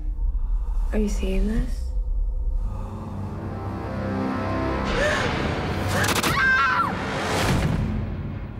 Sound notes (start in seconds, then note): 1.8 scary music; 5.0 gasp; 5.8 scream